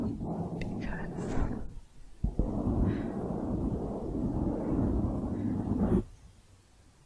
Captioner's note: dense mic scratching